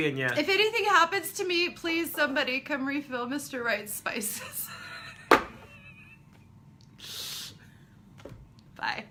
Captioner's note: both laughing